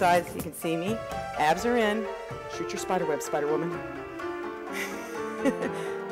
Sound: laughs

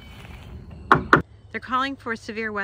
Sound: hammering

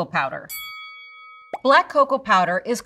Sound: bell dings

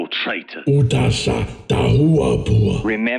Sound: expressing surprise and distaste

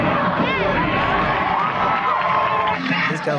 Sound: crowd cheering

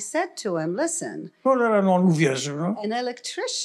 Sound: foreign language

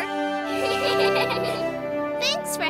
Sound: giggling

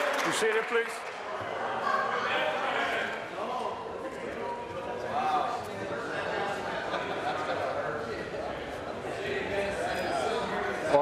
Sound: applause

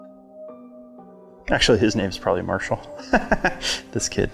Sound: laughs

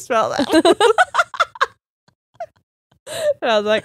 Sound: both laughing

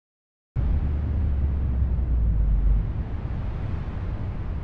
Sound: wind blowing

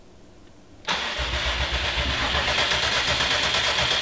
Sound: engine turns over

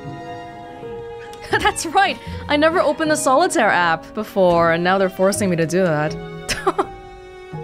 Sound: chuckles

